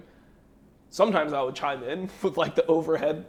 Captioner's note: laughs